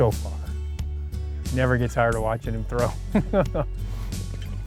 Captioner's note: laughs